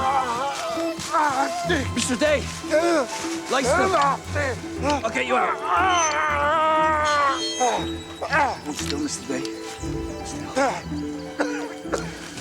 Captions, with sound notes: Dick! Mr. Day! Lie still. I'll get you out. (Mr.Day groaning) Hold still Mr.Day.